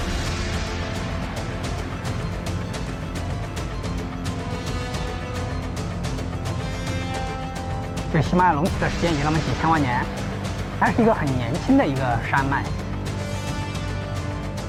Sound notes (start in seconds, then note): 0.0 dramatic music; 2.8 speaking in foreign language